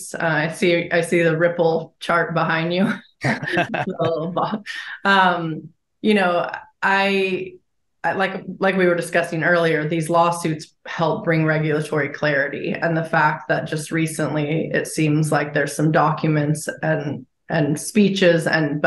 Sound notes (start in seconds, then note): 3.2 interviewer chuckles; 3.2 chuckles